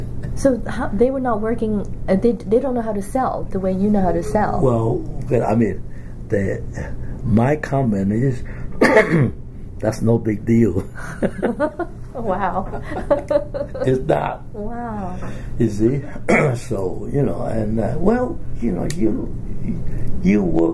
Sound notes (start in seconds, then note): 8.7 coughs; 12.5 both laugh; 15.9 coughs